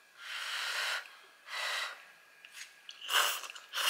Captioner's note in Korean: 호로록